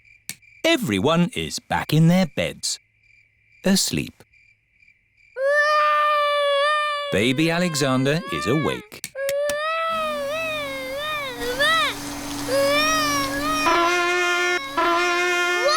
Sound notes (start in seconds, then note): 5.4 baby alexander crying; 9.9 vacuum cleaner whirring; 13.4 trumpet blowing